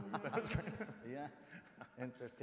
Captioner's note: laughs